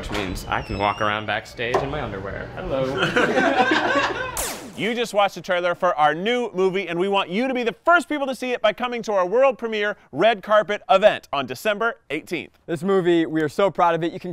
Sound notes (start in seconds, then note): 2.8 laughs